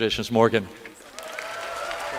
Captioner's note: applause